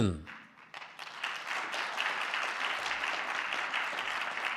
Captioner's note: audience clapping